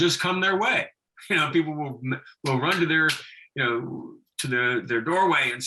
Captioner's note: laughing